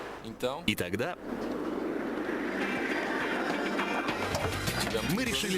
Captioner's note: wind noise